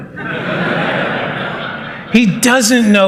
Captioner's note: laughter